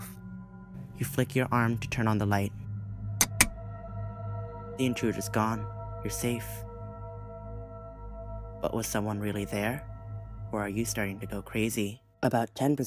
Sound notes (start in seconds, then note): 3.1 flick